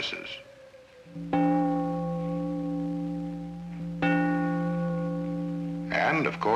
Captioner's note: church bells ringing